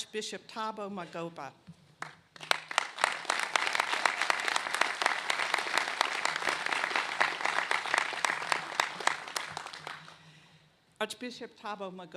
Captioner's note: applause